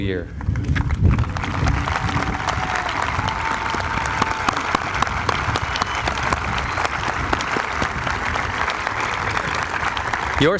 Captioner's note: applause